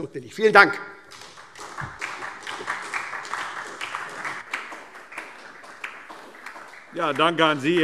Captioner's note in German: Beifall SPD